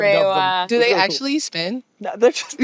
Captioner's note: chuckles